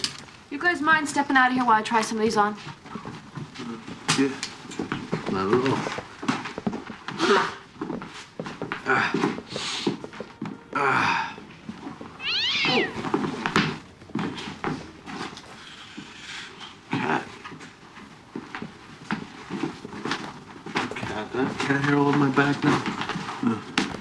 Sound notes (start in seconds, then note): 8.7 groans; 12.1 cat yowling